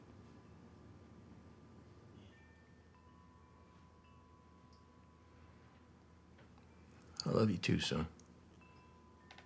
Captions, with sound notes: (chimes softly clanging) - I love you too, son.